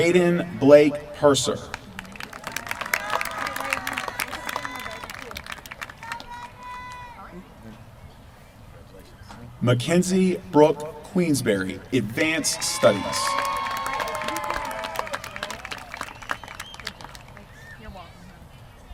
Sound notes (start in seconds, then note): 1.7 applause; 12.8 applause